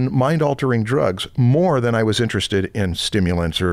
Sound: none

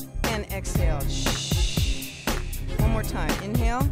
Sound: hissing

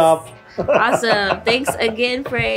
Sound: laughs

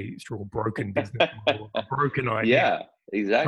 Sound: laugh

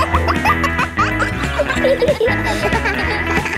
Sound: kids laughing; pop music playing

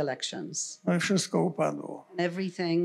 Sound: foreign language

